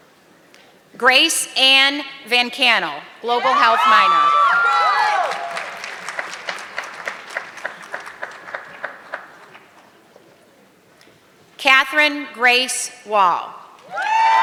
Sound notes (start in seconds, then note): 4.5 audience clapping; 14.2 audience clapping